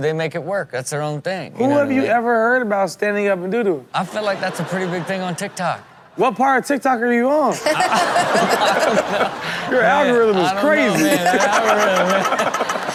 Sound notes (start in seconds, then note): 7.6 everyone laughs